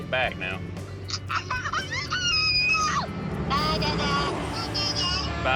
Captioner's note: laughing